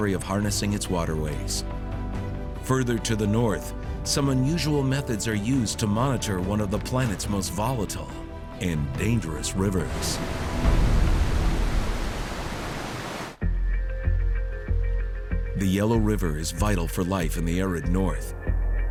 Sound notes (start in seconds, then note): 9.3 water crashing